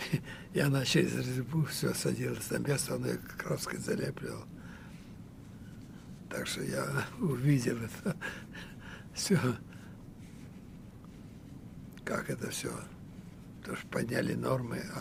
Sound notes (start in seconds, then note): 8.2 laughing